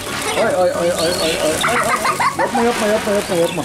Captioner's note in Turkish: Gülüşmeler